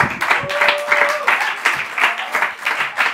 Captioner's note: laughter and applause